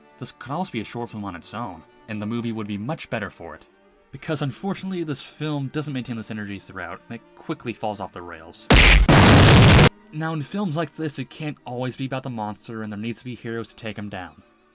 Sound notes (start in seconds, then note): 8.7 loud Crash Sound; 8.7 loud Explosion Sound